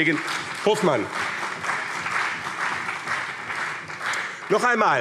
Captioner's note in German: Beifall BÜNDNIS 90/DIE GRÜNEN